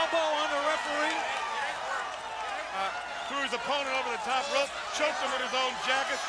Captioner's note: applause